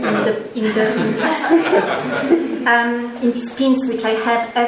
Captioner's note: audience laughs